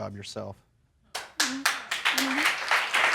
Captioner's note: applause